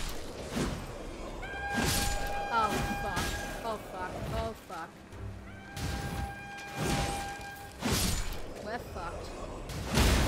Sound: horn blowing

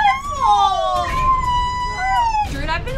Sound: screaming

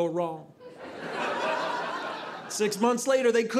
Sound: audience laughing

